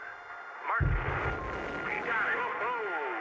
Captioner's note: whoosh